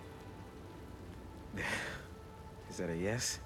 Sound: laugh

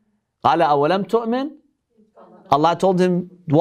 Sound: Arabic

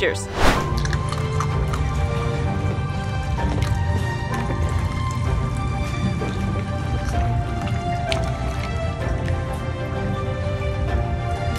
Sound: background music; whooshing sound effect; water splashing sounds; ice crunching sounds

